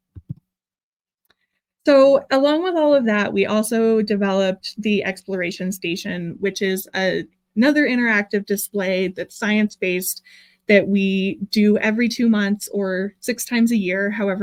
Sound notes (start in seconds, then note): none